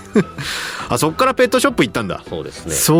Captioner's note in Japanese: 笑い